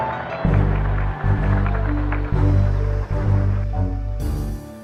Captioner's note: applause